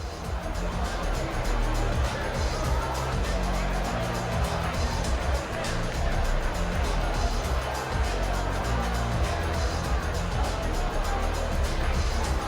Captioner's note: crowd chatter